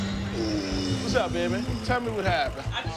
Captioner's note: dramatic music; grunting